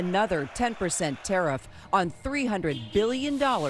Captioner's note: cheers and applause